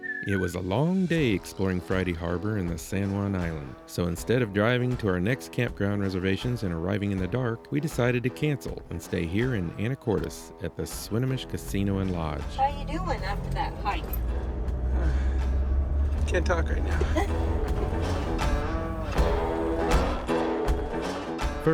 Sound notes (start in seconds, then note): 14.8 catching breath